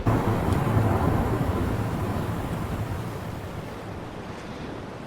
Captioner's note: waves rumbling